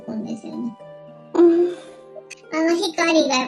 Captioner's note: laughs